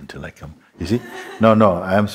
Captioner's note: soft laughter